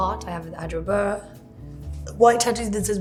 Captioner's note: speaking softly